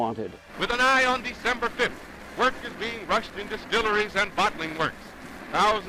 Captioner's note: radio Announcer